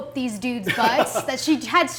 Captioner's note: laughs